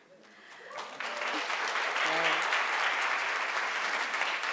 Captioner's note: audience applauds